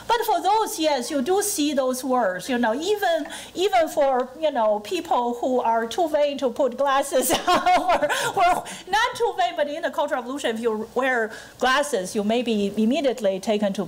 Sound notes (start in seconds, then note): 7.2 laughing